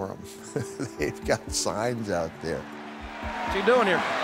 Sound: laughs

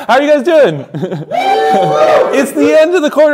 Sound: cheering

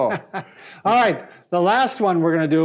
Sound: laughs

